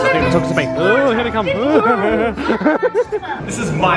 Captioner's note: laughing